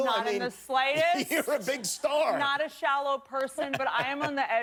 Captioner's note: laughter